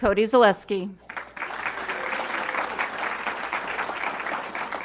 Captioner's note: audience clapping